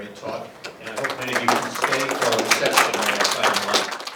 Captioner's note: applause